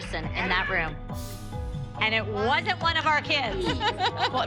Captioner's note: laughter